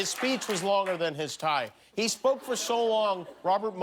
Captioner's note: laughter